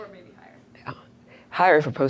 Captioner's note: voiceover